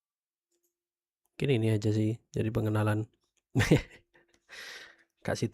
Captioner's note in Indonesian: tertawa